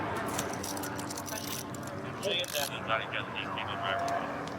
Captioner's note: dispatch chatter